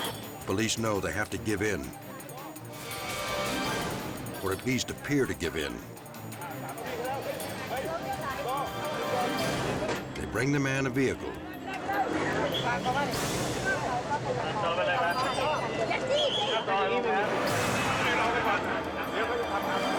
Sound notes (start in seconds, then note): 11.2 officers chatter; 17.2 dramatic music; 19.8 officers speak in foreign language